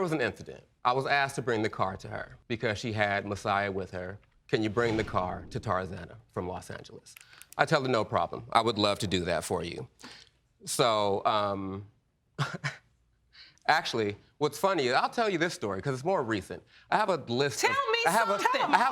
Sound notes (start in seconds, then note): 12.4 chuckles